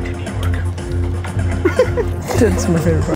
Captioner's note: laughs